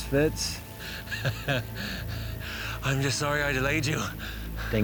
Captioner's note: laughs